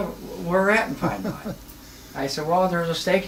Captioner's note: laughs